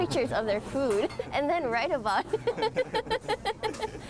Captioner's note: laughs